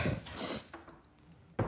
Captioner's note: sniffs